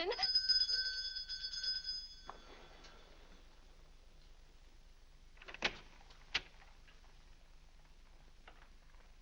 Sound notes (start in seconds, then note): 0.0 bell rings; 5.4 door opens